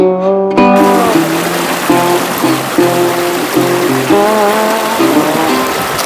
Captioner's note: water splashing